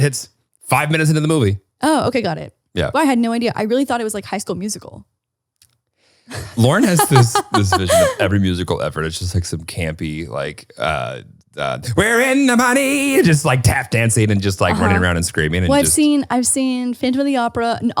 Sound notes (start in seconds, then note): 6.3 laughing